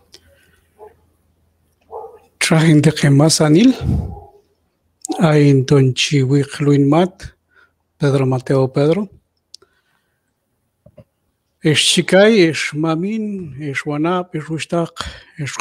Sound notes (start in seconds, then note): 4.8 speaking q'anjob'al